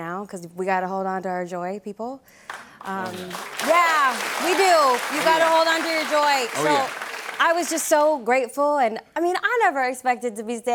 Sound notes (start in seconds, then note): 2.8 cheers and applause